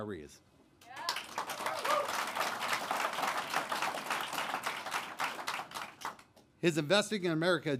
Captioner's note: applause